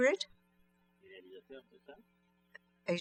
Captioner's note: speaking french